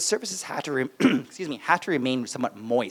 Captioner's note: coughs